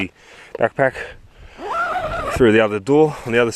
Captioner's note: zipper zips